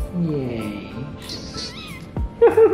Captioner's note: Tofu meows